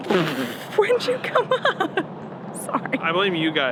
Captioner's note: laughs